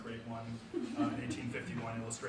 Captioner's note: audience member laughs